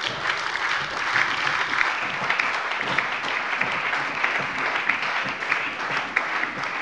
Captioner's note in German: Heiterkeit und allgemeiner Beifall